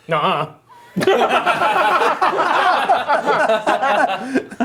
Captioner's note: laughing